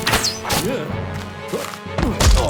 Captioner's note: grunts